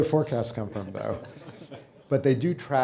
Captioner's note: light audience laughter